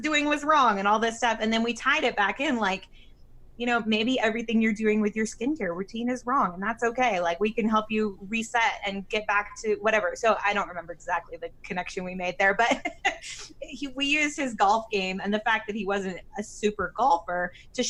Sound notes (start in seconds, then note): 12.6 laughs